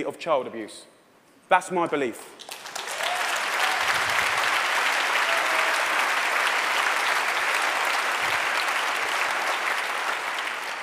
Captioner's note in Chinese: 掌聲